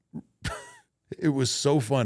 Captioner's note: Undertaker chuckles